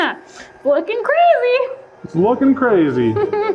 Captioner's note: laughing